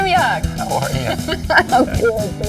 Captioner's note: laughs